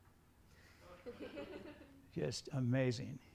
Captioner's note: students chuckling